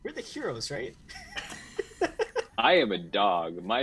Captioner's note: laughter